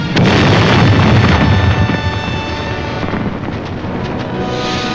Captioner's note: explosion booming